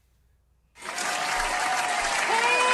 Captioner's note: applause